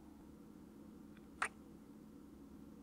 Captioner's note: kiss